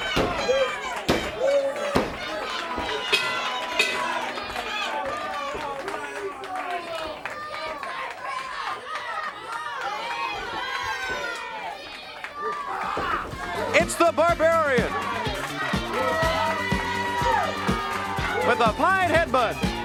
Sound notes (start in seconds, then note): 0.1 crowd chatter; 4.6 bell ringing; 5.5 crowd chatter